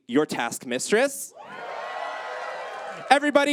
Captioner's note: audience cheers